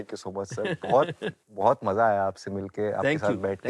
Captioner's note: laughs